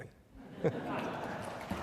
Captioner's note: laughter; applause